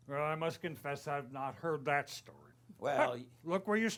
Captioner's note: none